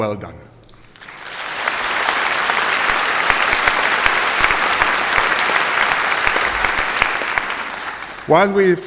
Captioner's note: applause